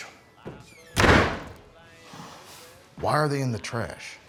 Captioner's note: door thuds